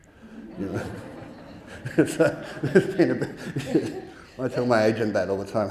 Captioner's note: audience laughing